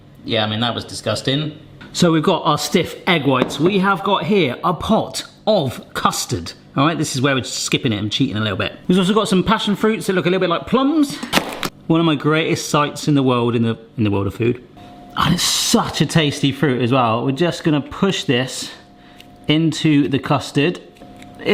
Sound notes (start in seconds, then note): 3.4 dish bangs; 11.7 knife chops